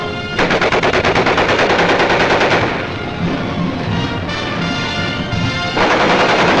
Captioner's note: dramatic patriotic music; guns firing